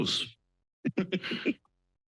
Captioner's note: laugh